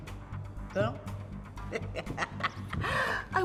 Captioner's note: laughs